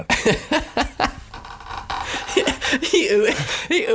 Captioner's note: laughing